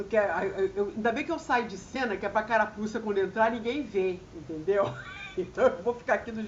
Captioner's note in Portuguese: risadas